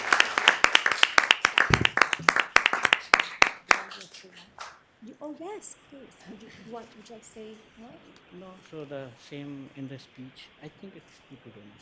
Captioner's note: applause